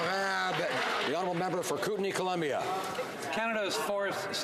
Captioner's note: some Applause